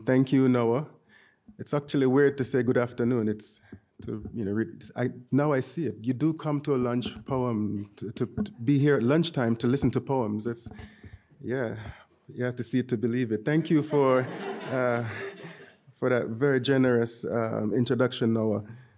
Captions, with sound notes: - Thank you, Noah. It's actually weird to say good afternoon. You know, now I see it. You do come to a lunch poem, to be here at lunchtime to listen to poems. It's, yeah, you have to see it to believe it. (audience laughing) Thank you for that very generous introduction, Noah.